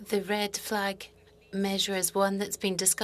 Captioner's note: speaking French